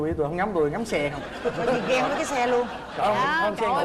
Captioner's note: laughing